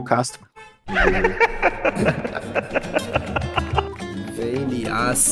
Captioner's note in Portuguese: risos